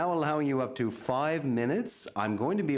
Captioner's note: speaking French